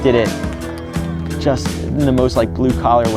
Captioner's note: cheers